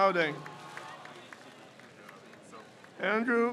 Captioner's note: crowd cheers